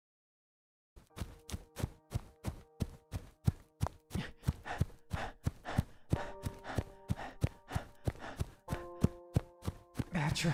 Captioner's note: The Mage pants heavily as running footsteps fill the air